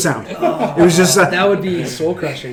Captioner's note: groaning